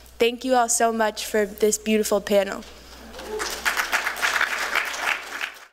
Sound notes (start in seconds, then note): 3.1 applause